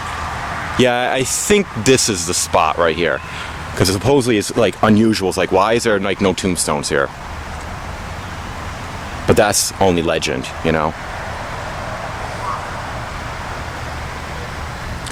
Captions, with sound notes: Ya, I think this is the spot right here. Because supposedly it's like unusual, like, why they're like no tombstones here. But that's, only legend, you know. (Distant Dog Bark)